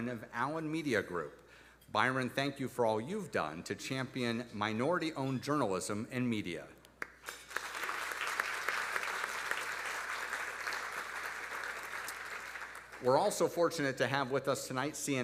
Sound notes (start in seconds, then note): 7.0 audience applauding